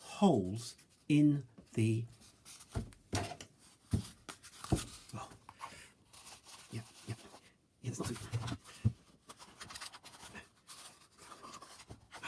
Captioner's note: muffled comedy noises of effort